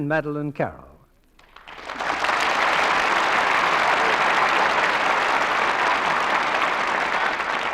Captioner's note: applause